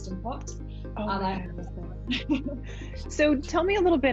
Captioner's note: laughs